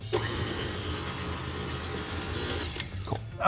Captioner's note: mixers buzzing